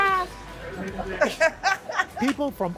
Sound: laughter

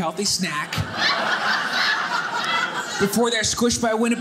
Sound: audience laughing

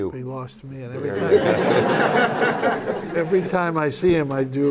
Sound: laughter

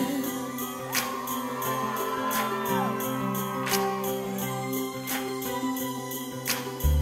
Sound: instrumental music; audience cheering

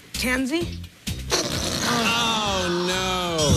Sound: farting noise

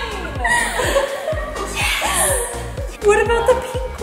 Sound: all laughing

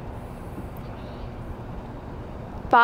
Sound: whispering

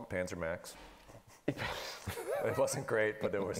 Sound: laughing

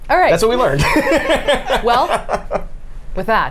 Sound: laughs

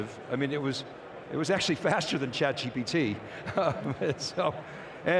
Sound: laughs

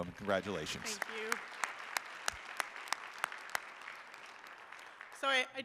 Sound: audience applauding

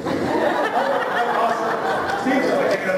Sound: laughter

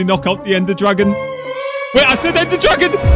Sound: dramatic sound effect

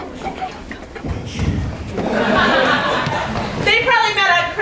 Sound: laughter

